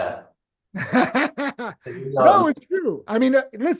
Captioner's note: laughing